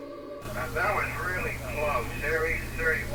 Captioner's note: tense suspenseful music; man on Radio